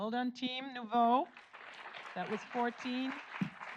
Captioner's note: audience applauds